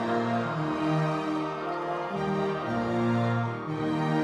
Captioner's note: audience members cheering